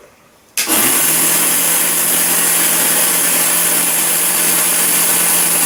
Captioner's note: noisy wheels